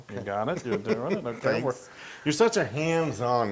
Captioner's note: laugh